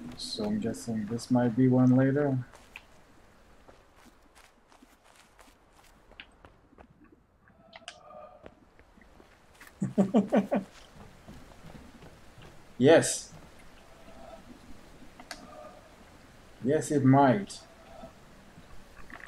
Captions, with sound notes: So I'm guessing this might be one later? [chuckles] Yes! Yes it might!